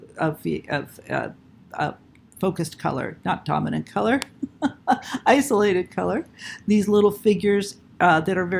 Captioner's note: chuckle